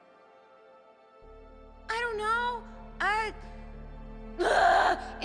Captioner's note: screams